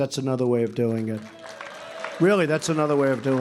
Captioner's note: applause